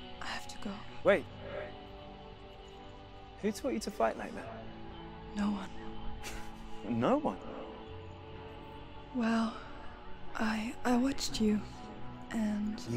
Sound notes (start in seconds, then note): 6.2 laughs